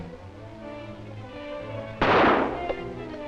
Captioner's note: gunshot